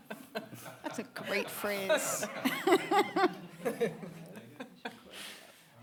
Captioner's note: audience laughing